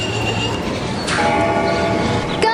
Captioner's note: bell ringing